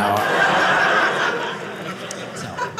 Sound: audience laughing

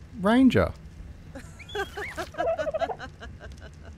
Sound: laughing

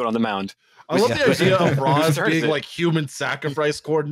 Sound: laughs

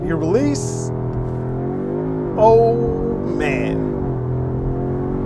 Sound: car engine revving

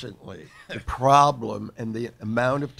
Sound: laughing

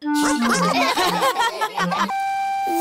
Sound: all laugh

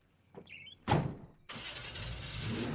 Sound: door slamming; engine revving up

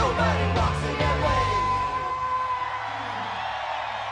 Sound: crowd cheering

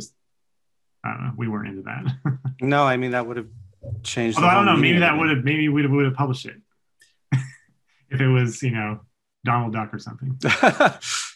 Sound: chuckles

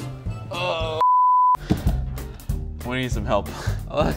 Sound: grunts

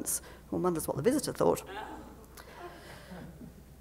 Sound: laughter

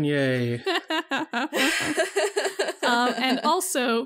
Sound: all laugh

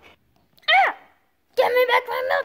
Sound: yells

